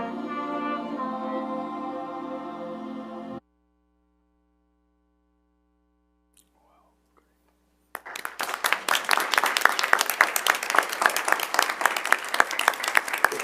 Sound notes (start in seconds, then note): 7.9 audience applauding